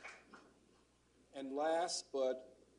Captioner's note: applause